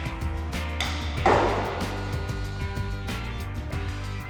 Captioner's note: wooden bangs